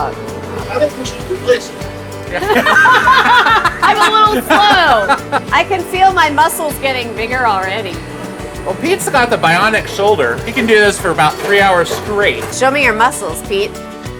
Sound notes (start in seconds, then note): 2.4 laughing